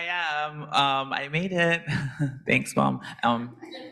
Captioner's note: laughs